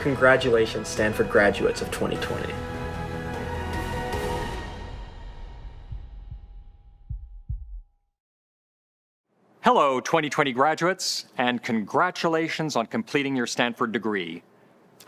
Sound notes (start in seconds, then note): 3.4 dramatic music; 5.4 heart beating